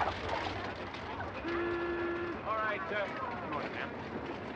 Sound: horn blowing

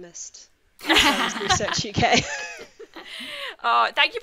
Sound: presenters laugh

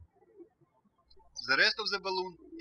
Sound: birds chirping

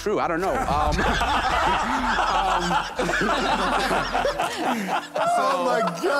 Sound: laughter

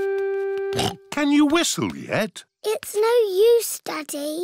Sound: snorts

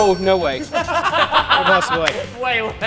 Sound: laughter

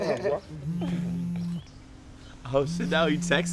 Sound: phone vibrating

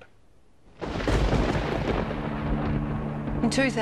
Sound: thunder crashes

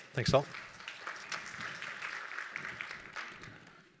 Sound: applause

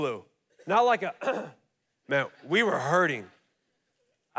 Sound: clears throat

